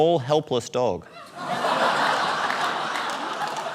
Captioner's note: laughter